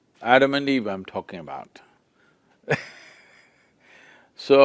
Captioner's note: laughs